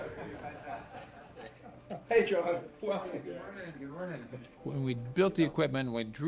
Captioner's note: indistinct chatter